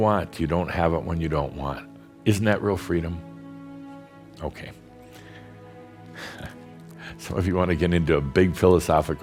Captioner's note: Adamus chuckles